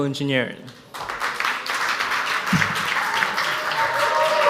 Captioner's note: audience applauds